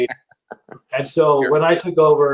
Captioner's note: laughs